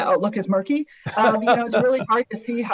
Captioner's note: laughs